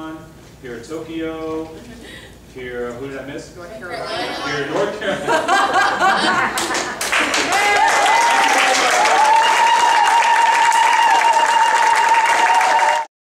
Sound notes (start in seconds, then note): 6.5 clapping and zaghareets